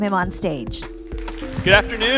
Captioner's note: applause